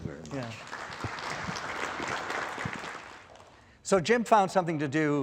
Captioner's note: audience applause